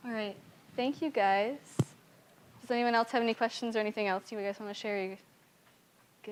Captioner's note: none